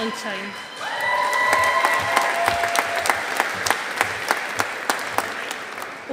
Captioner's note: audience applauding